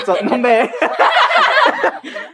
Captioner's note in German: alle lachen